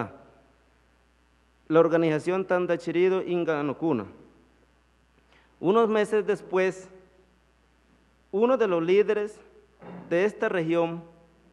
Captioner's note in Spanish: habla en lengua indígena